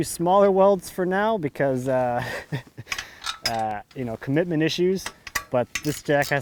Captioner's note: laughing